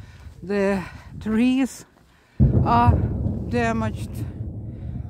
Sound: artillery sound

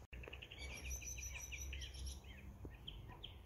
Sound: birds chirping loudly

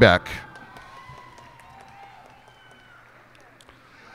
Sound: cheers and applause

